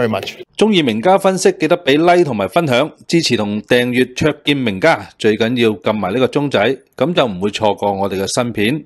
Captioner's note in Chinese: 以粵語發言